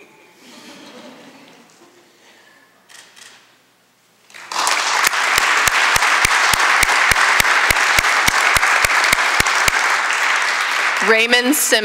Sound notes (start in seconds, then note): 4.3 applause